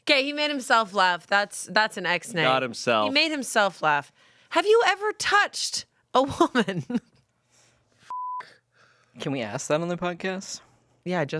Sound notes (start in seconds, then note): 7.6 laughs; 8.1 beep